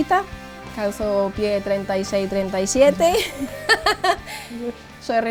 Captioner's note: laughs